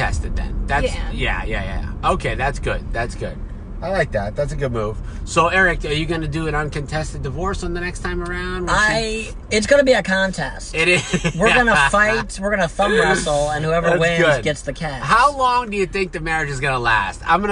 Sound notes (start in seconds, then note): 10.9 laughing